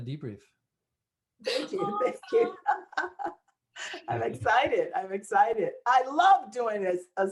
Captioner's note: laughter